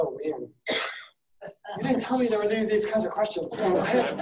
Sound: laughing

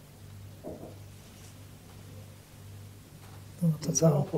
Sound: gentle knocking

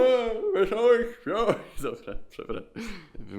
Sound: laughs

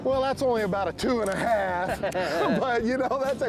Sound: both chuckle

